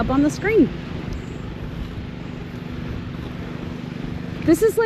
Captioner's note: lawn mowers rumbling